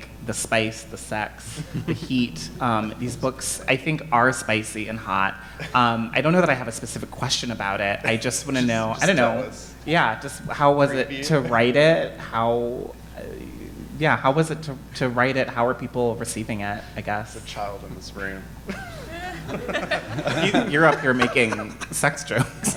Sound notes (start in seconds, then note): 18.6 all laughing